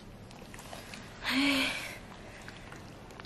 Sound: sighs

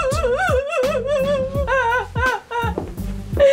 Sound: cries

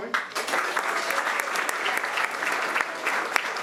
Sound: applause

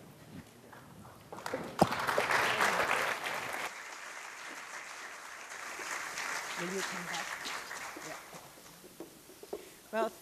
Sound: applause

